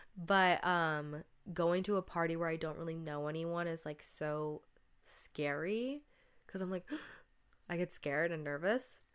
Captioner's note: gasp